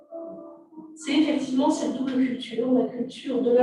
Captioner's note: non-english speech